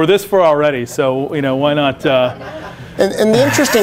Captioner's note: laughter